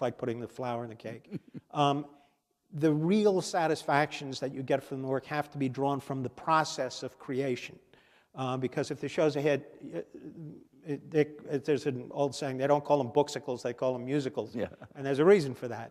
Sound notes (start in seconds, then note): 1.2 chuckle